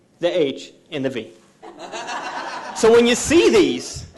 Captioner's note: audience laughing